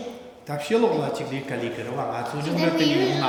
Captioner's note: speaking tibetan